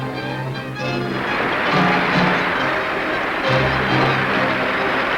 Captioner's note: water gushing